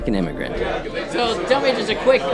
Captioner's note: people chatter